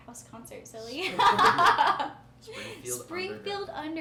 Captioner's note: group laughing